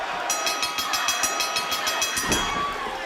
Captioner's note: fans chanting; bell ringing